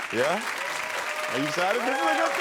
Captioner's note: crowd cheering